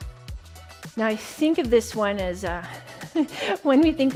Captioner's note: chuckles